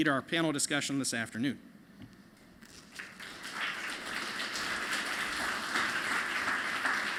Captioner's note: applause